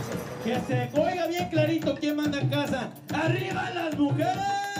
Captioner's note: speaking in foreign language